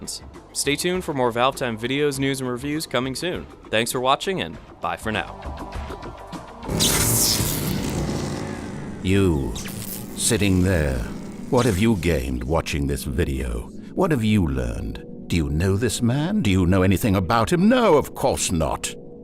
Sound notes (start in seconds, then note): 6.6 powering down sound effect